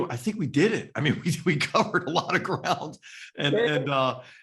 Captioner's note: laugh